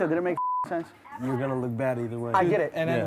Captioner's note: beep